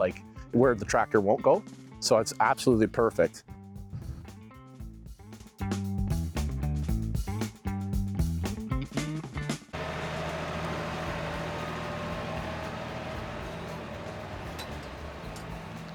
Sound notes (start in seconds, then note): 4.4 upbeat music; 9.8 motor whirring; 14.4 upbeat music